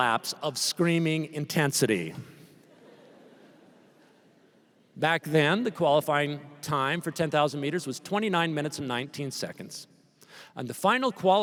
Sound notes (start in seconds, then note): 2.6 laughter